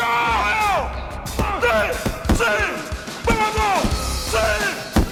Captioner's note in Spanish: Gritos